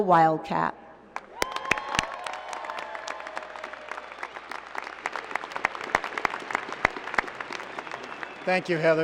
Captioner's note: applause